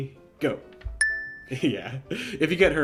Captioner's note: dinging